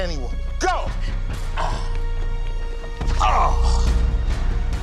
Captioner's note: groans